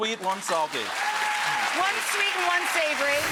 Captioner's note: audience applauding